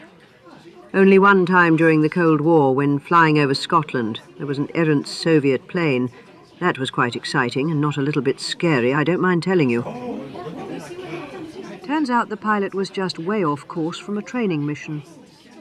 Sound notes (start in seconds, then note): 9.8 oohs and ahhs from the group